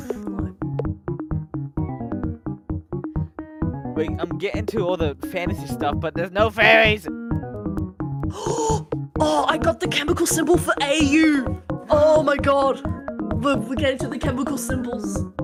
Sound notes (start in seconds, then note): 8.3 gasp